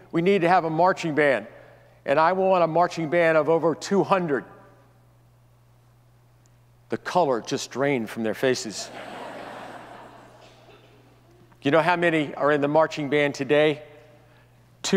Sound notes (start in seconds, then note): 8.8 audience laughs